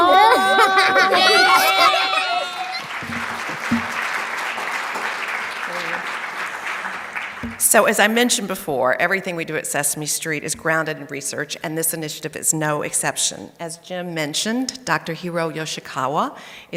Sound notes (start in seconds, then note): 2.6 audience applauding